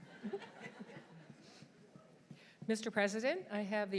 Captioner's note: audience chuckles